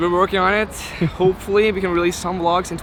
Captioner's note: sighs; man 1 laughs